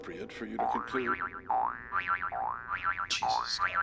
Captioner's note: cartoon noises